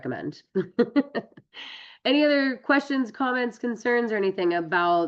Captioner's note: laughs